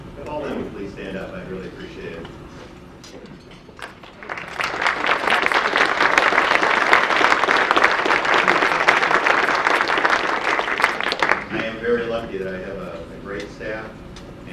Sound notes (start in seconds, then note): 3.8 audience applause